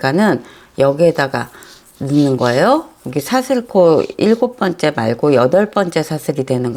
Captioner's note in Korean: 콧방귀